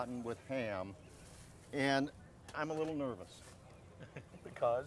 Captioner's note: laughing